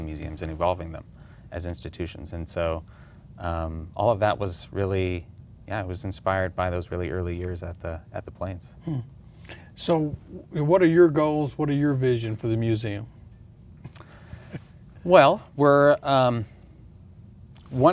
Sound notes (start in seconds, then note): 14.1 laughs